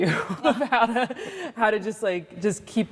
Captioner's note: laughing